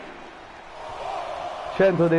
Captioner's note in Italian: Applauso